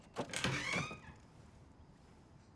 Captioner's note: door creaks open